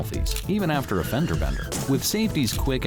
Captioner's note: brakes squeal, cars crash